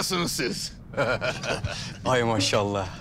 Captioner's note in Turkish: Gülme sesi